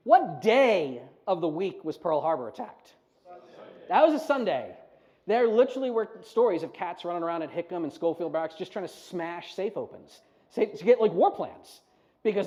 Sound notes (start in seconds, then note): 3.9 audience talking